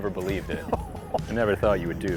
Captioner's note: laughs